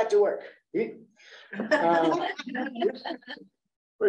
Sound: laughing

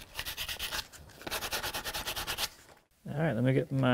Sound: sandpaper scratching

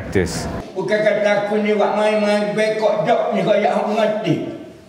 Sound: speaking foreign language

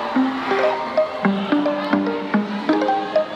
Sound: cheers

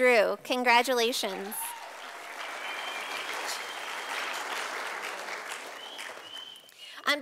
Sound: sound of applause from audience

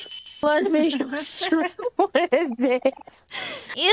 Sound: laughing

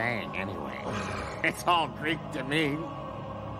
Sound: growling

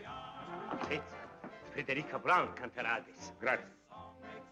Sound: Italian spoken audio

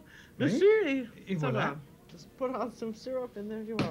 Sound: speaking French

